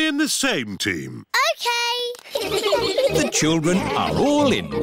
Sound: all giggling

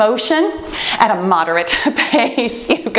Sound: laughs

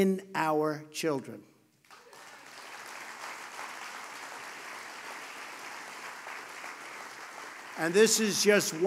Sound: applause

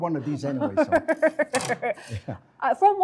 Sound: laughter

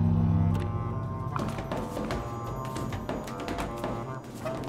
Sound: footsteps

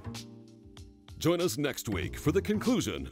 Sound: voiceover

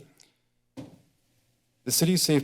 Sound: soft thud

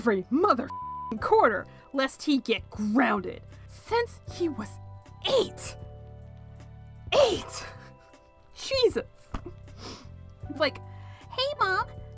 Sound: sniff

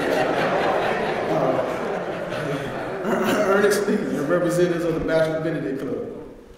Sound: laugh

